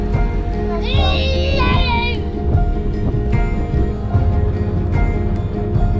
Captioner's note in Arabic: يصرخ بصوت عالٍ